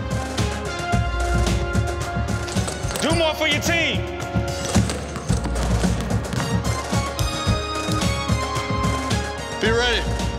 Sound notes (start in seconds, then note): 0.1 triumphant music; 4.3 balls thumping; 7.0 ball clacking